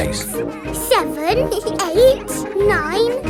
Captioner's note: both giggle